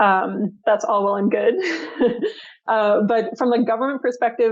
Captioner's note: chuckles